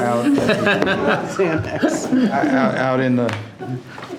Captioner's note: trustees laughing